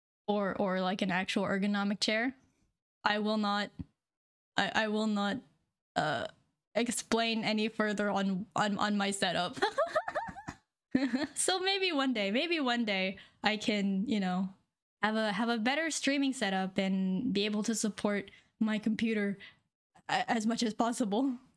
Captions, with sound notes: Or an actual ergonomic chair I will not explain any further on my set up [laughing] So maybe one day, maybe one day I can y'know have a better streaming set up and be able to support my computer as much as possible